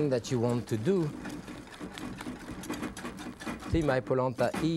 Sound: quickly whisking

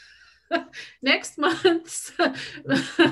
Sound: laughs

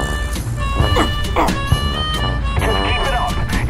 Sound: The M36 GMC groans

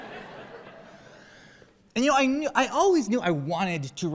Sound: laughter

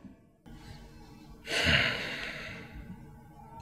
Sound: exhale

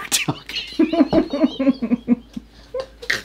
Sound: laughs

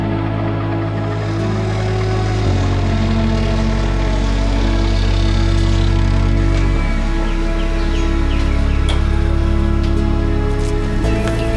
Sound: machine whirring

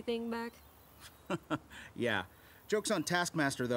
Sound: laughs

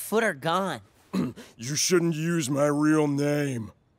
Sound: clearing throat

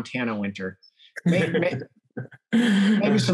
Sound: laughs

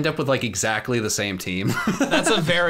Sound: laughs

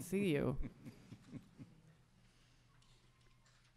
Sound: chuckles

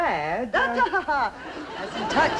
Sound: Joan laughing reprimandingly

